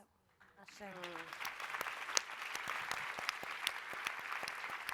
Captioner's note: applause